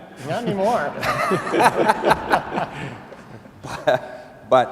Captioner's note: laughing